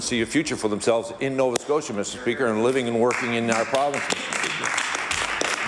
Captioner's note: applause